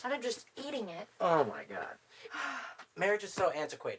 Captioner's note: Emma sighs